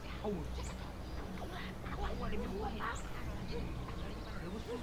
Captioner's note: people speaking Vietnamese can be heard behind the door